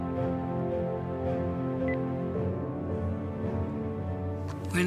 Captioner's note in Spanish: Suena el teléfono